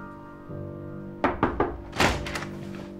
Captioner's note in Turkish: Kapı vuruluyor